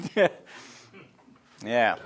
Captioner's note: laughs